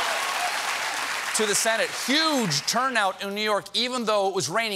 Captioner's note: cheers and applause